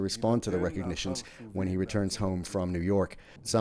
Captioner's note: speaking alternate language